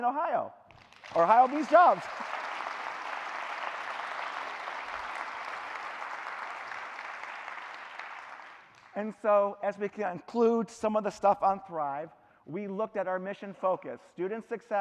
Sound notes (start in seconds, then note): 8.1 clapping; 10.8 cheering